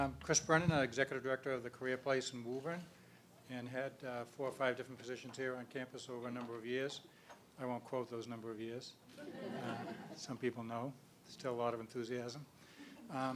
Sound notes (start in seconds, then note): 9.2 laugh